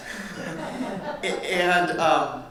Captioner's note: audience laughing